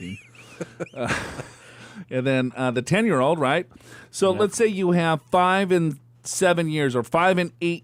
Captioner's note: laughs